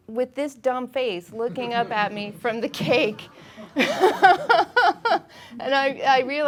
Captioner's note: laughing